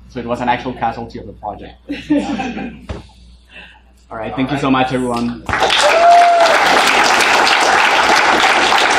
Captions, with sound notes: so it was an actual casualty of the project. (laughing) All right, thank you so much, everyone. (students applauding)